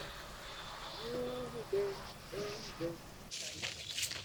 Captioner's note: Nolan humming